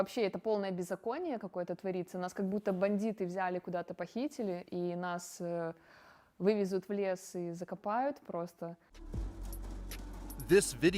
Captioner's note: speaking russian